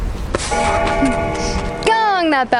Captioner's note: bell ringing